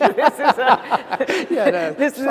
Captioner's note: laughter